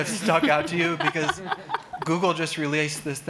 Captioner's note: woman laughing